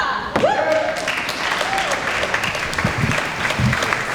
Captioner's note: applause